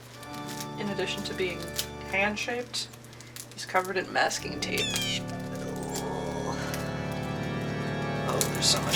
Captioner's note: crow caw